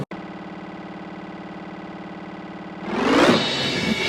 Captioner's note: buzzing noise; drum plates noises